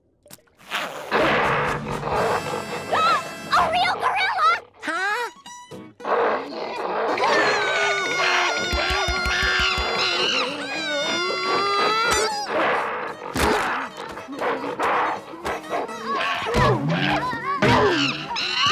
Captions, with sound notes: [gasping] A real gorilla! Huh? [screaming] [screaming, thudding]